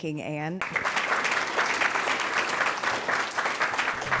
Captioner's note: audience applauds